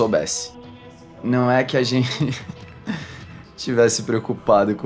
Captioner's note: laughs